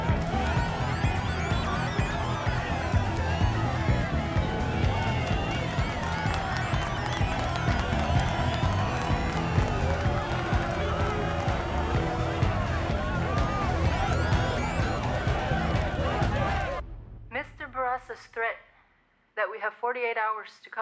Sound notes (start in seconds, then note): 6.3 crowds clapping; 13.5 crowds chanting